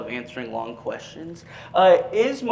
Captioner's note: none